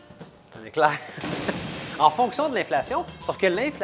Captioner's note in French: rire